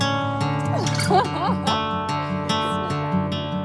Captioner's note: laughter